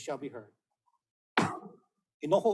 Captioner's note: gavel bangs once